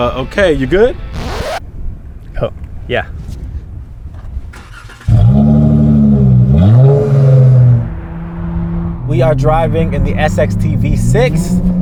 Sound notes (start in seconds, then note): 0.9 record scratch; 4.6 revving; 4.7 car starts